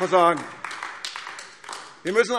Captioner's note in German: Beifall AfD